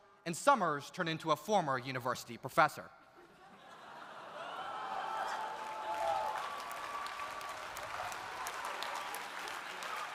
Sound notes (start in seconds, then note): 3.1 audience laughs; 4.3 audience applauding